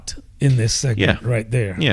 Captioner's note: uh